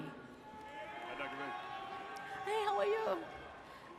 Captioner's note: audience cheers